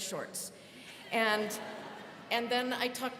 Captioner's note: students laughing